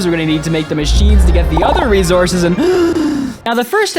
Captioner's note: inhale